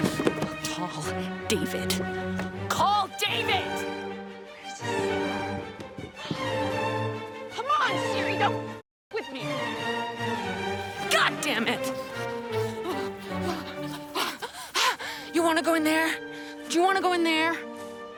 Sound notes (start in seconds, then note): 11.8 Alex panting